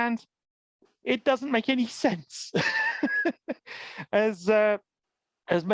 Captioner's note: laughs